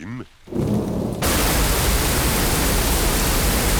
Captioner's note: thunder rumbling